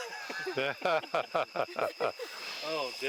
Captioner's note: all laughing